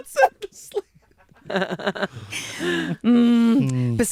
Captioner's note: everyone laughs